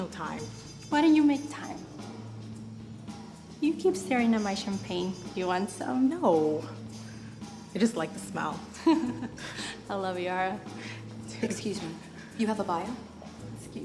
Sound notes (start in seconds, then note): 8.8 laughs